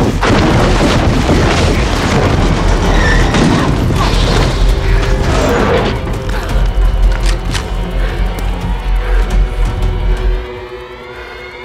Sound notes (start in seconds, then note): 3.3 Natalie grunting; 7.0 gun clicks; 7.7 Natalie panting